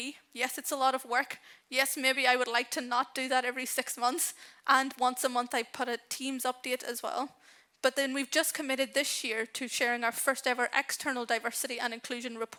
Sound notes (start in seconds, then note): none